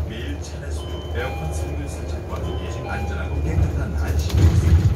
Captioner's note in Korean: 하차벨 소리